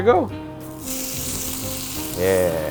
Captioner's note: pan sizzling